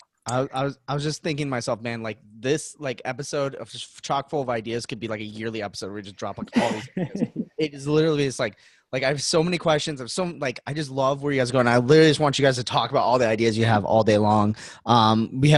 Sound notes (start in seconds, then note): 6.4 laughing